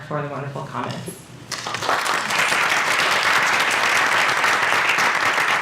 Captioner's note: applause